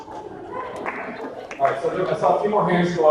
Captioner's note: audience cheering